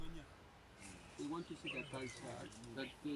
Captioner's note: indistinct chatter